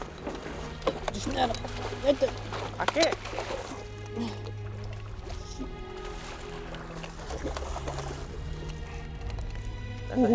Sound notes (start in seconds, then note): 3.1 water splashing